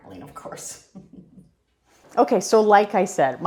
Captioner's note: chuckles